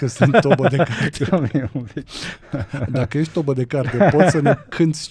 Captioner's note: laughter